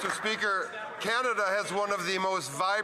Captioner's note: applause